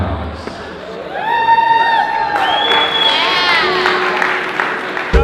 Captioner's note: audience cheers